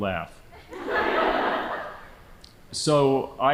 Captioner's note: audience laughing